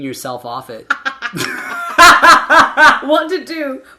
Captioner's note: laughing